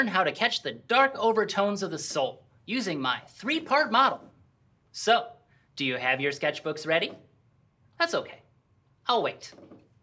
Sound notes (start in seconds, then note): none